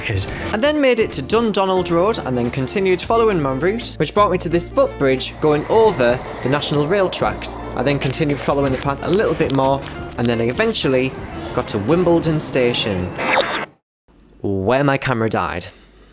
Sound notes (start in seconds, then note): 13.1 glitch effects